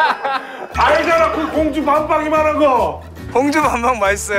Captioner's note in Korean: 기쁨의 외침